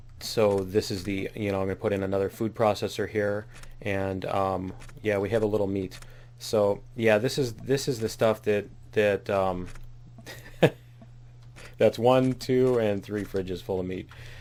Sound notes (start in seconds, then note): 10.2 laughs